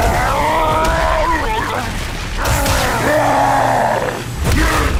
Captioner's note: grunts